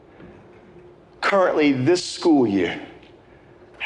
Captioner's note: taking deep breaths